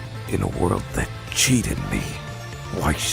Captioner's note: none